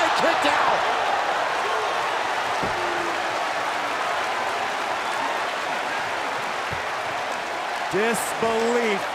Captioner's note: crowd cheering